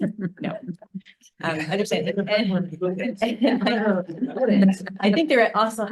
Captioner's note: laughs; attendees chattering; laughs